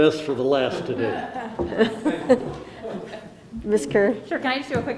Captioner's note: laughs